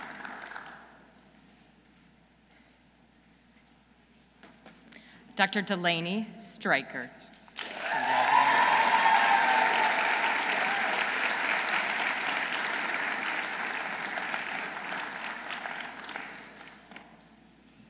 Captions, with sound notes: Dr. Delaney Sztraicher. -(audience cheering) -(audience applauding)